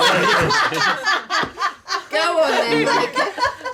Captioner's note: laughing